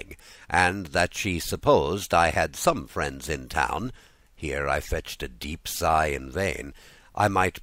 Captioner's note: here I fetched a deep sigh in vain!